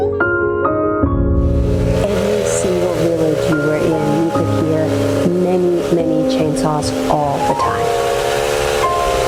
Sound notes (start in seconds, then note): 1.5 chainsaw engine roaring